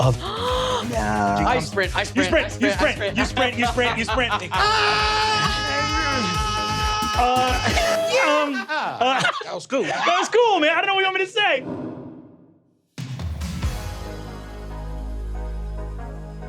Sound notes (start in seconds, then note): 0.0 gasps; 4.5 screaming